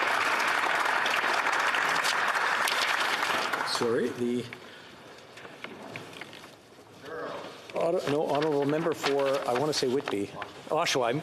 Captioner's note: some Applause